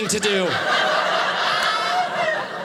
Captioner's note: audience laughing